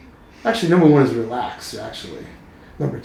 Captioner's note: laughing